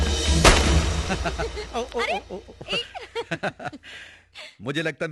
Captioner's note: laughing